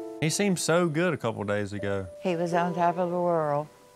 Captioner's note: none